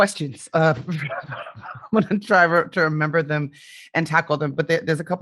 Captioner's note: chuckling